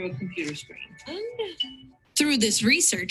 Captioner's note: monotone beeping